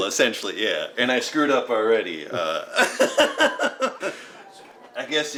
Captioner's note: laughs